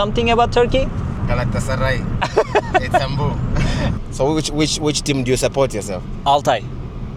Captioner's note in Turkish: kahkaha